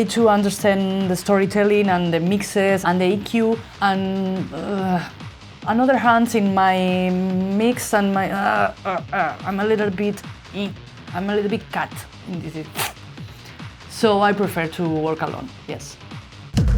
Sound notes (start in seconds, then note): 13.1 hisses